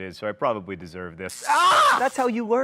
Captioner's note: John yelps; electricity buzzes